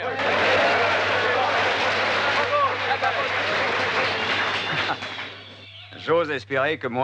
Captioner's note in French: applaudissements